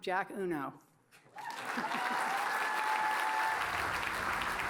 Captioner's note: cheers and applause